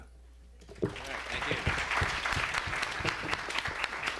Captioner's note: applause